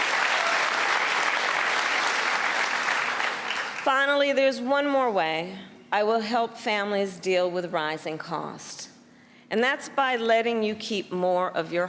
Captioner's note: cheers and applause